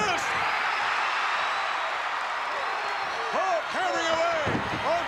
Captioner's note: audience cheering